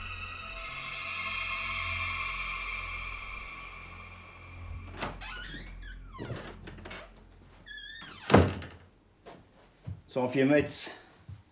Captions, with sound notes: (door clattering and squeaking) - Time for your meds.